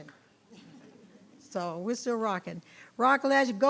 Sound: people chuckling

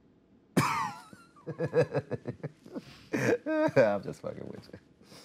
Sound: laughter

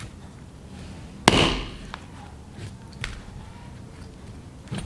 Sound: knife whacking

